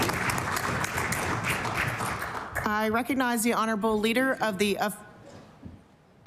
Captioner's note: applause